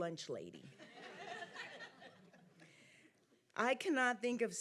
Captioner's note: audience laughing